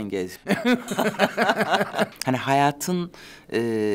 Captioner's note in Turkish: Gülüyorlar